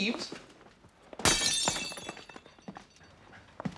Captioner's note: glass smashes